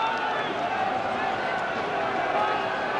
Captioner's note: crowd screaming